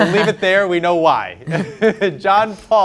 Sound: laughs

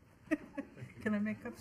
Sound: girls chuckling

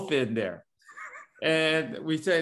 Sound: laugh

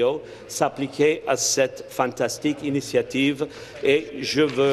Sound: speaking in French

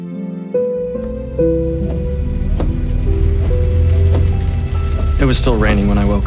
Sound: car engine running

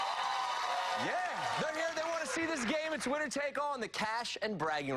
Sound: cheers and applause

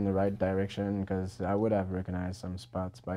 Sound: voiceover

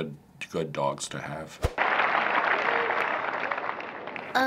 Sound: applause

